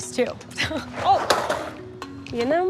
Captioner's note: laughs; items thudding